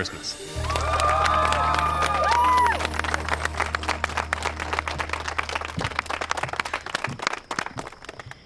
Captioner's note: cheering, applause